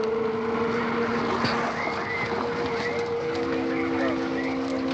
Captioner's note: police radio chatter